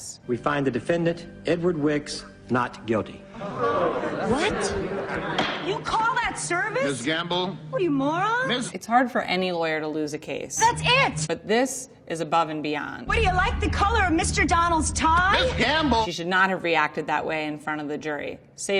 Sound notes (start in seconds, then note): 3.6 audience chattering; 5.3 gavel bangs